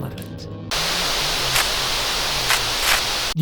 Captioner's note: static, whispering